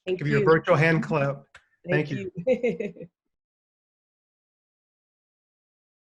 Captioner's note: laughing